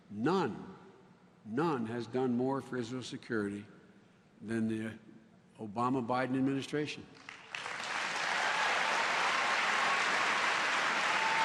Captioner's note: applause